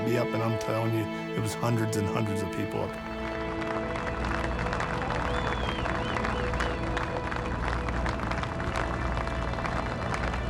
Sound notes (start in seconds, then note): 3.8 applause and cheers